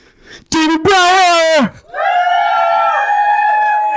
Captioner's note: cheering